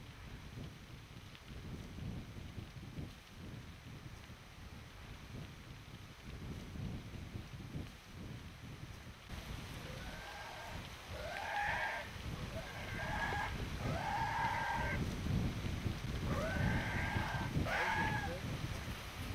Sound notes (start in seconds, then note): 9.6 bleating